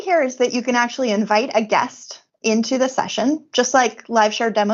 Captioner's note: none